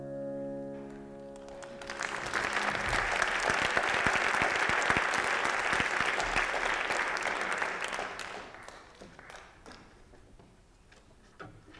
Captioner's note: applause